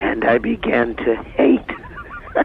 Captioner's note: laughter